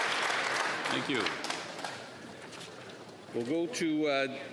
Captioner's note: applause